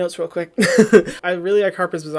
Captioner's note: laughs